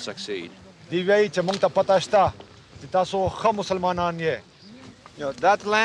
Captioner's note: man speaking Afghan